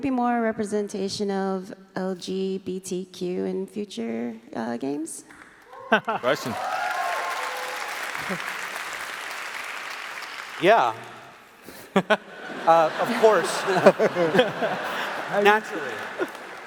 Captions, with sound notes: Will there be more representation of LGBTQ in future games? (applause) - Yeah. (laughs) Of course, naturally.